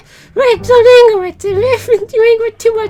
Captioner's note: stutt'ring